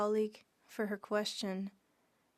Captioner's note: speaking French